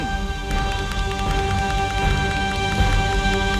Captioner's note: applause